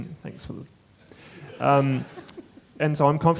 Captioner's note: audience chuckling